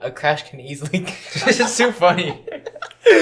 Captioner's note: laughter; laughing; more laughter